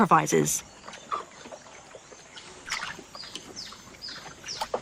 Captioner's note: water rustling